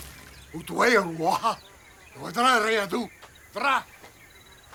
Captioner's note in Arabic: الصوت المنطوق البدوي